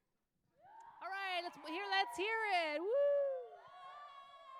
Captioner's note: applause